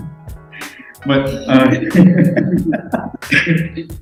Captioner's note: laughing